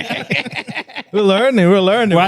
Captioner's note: laughing